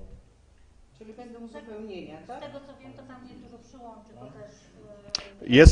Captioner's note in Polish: Głosy z sali